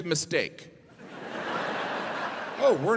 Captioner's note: audience laughing